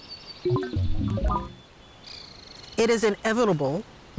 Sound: electronic warbling

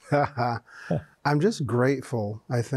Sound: both chuckle

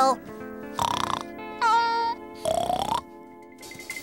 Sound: snoring

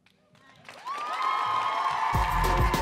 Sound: audience cheering; upbeat music

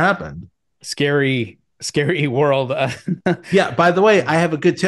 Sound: chuckles

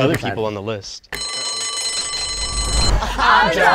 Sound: bell rings

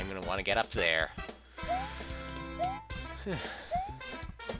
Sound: breathing

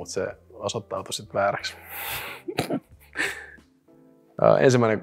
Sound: laughs

